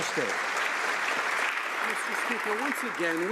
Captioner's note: some Applause